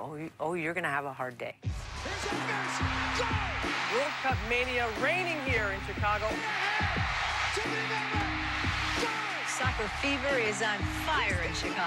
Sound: cheering, tv announcer

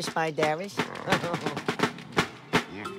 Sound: giggles

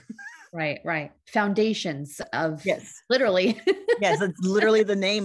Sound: laughs

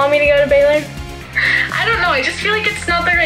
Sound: laughs

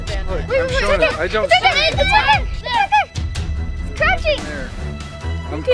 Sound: group yelling

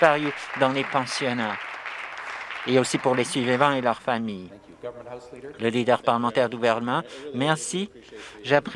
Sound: some Applause

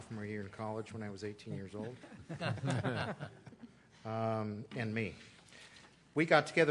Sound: laughter

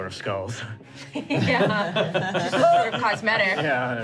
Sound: laughing

